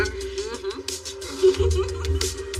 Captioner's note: giggleses